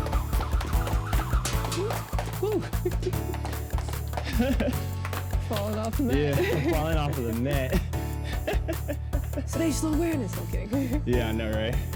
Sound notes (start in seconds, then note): 2.4 giggles; 4.2 laughs; 7.9 laughs